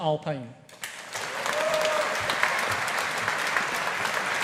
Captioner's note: audience applauding